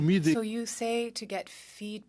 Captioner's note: speaking French